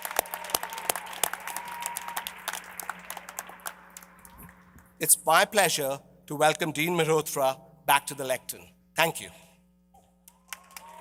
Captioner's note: applause